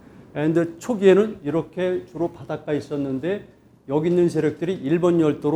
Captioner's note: speaking in Korean